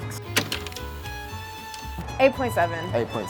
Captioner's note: projector clicking